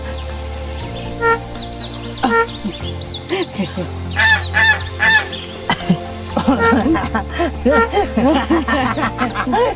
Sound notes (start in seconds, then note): 1.1 beeping; 6.3 both laughing